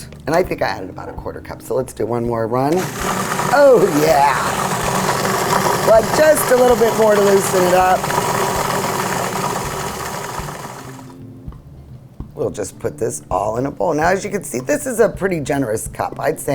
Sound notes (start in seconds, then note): 3.1 humming; 8.3 humming